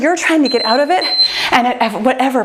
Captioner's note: timer beeps